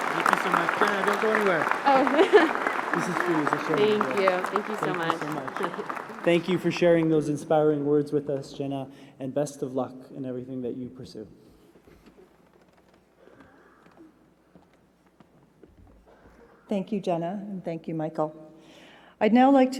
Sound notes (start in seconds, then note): 2.8 applause